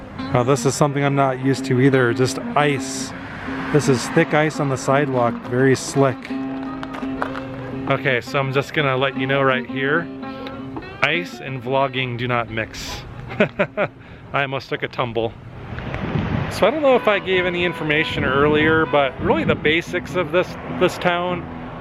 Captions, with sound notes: Oh this is something I'm not used to either. Just ice. This is thick ice on the sidewalk. Very slick. Okay so I'm just gonna let you know right here... ice and vlogging do not mix. [laughter] I almost took a tumble. So I don't know if I gave any information earlier but really the basics of this this town